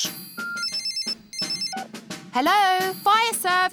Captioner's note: phone rings